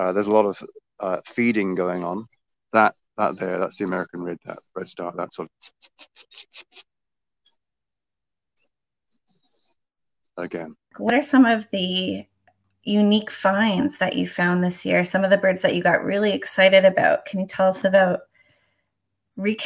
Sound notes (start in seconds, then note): 5.6 chirps; 7.6 redstart chirps